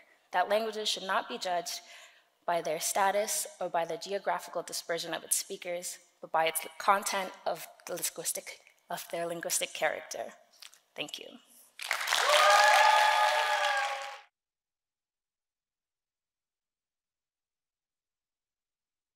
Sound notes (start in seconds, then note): 11.9 audience cheering